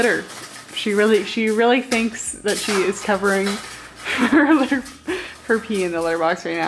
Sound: chuckles

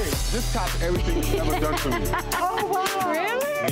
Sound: Erica laughs

